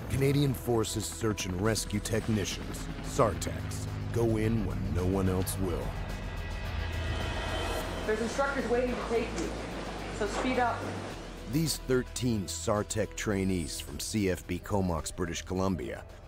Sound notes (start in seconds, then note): 8.9 voiceover